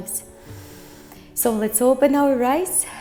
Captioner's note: breathing